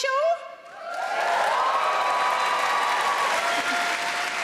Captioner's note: audience cheering